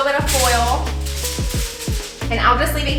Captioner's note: tin foil crinkling